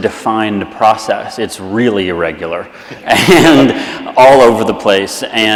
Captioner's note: laughs